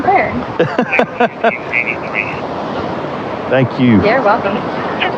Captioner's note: lauaughghing